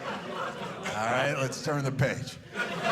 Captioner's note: audience laughing